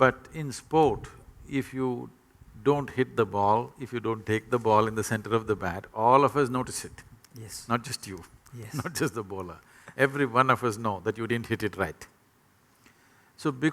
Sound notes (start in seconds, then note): 8.6 laughs